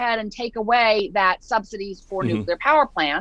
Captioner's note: murmurs